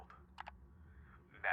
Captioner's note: clicking